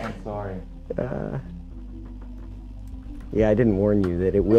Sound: chuckles

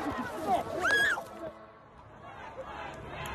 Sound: screaming

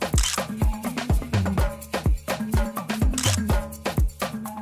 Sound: high energy reggae music; camera flash shutters

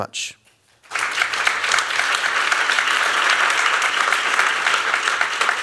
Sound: applause

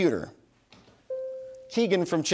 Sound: bell dings

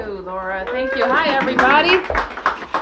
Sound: applause

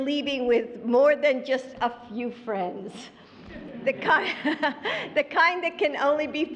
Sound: laughter

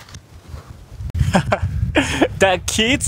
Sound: chuckles

